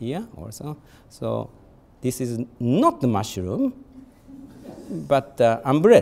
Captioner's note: audience chuckling